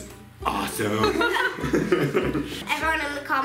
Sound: laughing

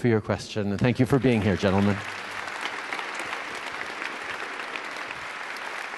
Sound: applause

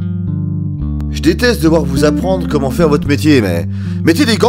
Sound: aggressive voiceover

